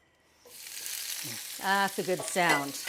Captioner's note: artichokes sizzle